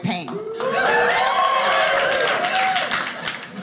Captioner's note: audience cheering